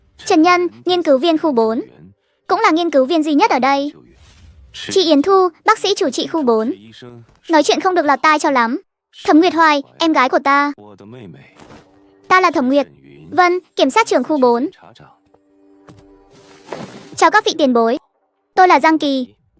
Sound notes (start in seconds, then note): 7.4 speaking rather unpleasantly